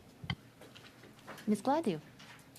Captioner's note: speaking French